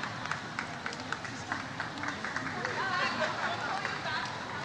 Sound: audience cheers

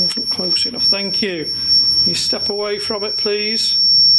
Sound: high pitched beep

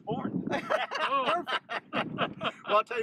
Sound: laughter

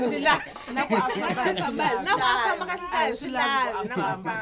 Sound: laughing; speaking native language; laughs

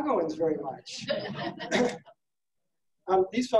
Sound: laughing

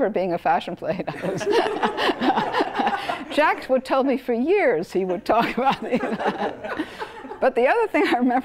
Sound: laugh

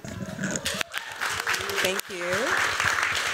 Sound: applause

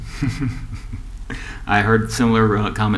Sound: laughter

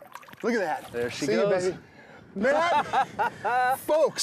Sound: laughing

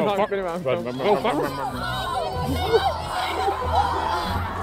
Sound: kids shout

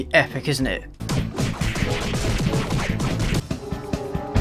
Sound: punching noises

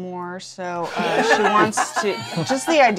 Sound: laughter

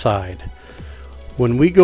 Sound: inhales

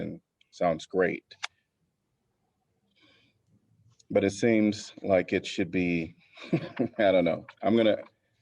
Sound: laughter

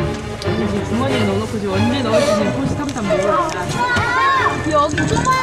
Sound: shuffle Shuffle

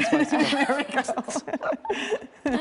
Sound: laughter

